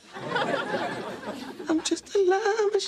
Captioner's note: audience laughing